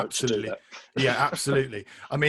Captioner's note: laughs